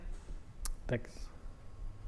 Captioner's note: audience member speaking